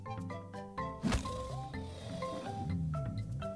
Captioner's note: crocodile's jaws whoosh; upbeat music